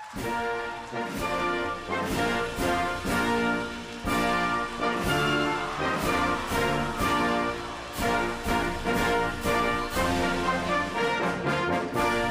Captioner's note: applause